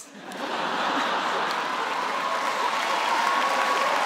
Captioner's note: laughter